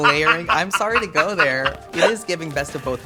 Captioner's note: laughs